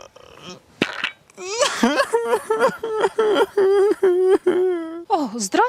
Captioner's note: cries